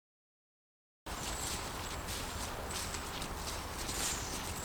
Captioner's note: leaves crunching